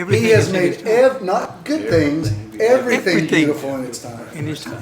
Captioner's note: bangs on table